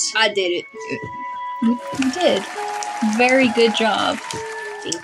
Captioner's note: applause